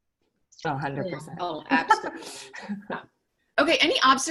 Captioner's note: laughing